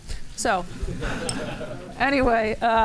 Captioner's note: laughter